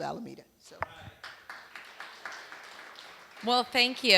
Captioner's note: applause